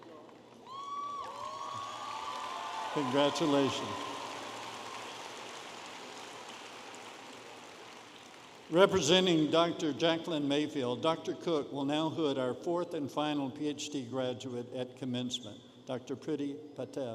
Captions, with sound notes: (audience applauding and cheering) Congratulation. Representing Dr. Jackline Mayfield, Dr. Cook will now hood our fourth and final PhD graduate at commencement, Dr. Prity Patel.